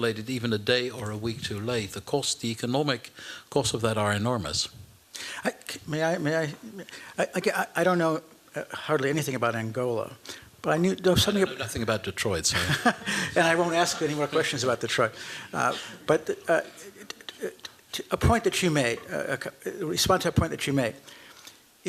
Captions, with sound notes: even a day, or a week too late, the economic costs of that are enormous. May I-- I don't know hardly anything about Angola, but I-- I know nothing about Detroit, so-- [laughter] And I won't ask any more questions about Detroit. But to respond to a point that you made.